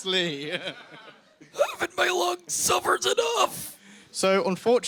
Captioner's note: strained